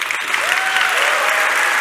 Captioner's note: cheering and Applause